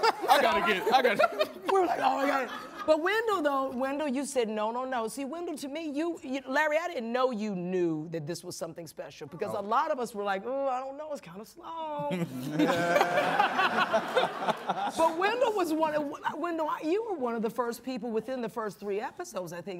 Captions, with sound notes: -I gotta get... -We're like, "Oh, my God!" But Wendell, though... Wendell, you said, "No, no, no." See, Wendell, to me, you... Larry, I didn't know you knew that this was something special. Because a lot of us were like, "Uh, I don't know. It's kind of slow." (ALL LAUGHING) But Wendell was one of... Wendell, you were one of the first people within the first three episodes, I think,